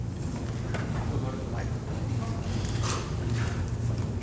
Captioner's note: voiceover